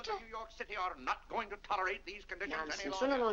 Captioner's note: Mr. Day rambling to himself